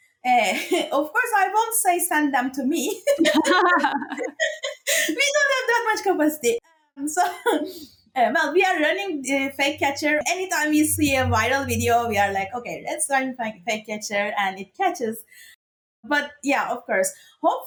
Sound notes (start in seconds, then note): 3.0 laughs